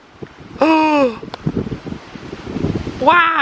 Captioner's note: gasps